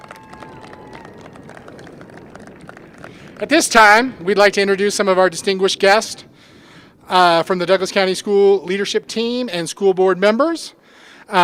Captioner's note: applause